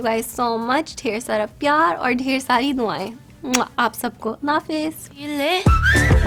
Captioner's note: kisses